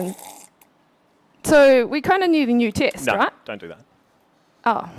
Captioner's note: slurping